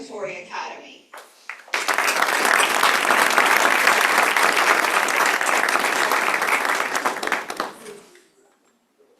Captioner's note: applause